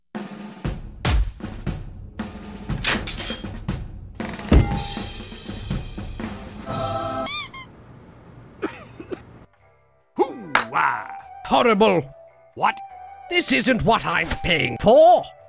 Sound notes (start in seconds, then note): 0.2 calm music plays; 6.6 music stops/squeaky sound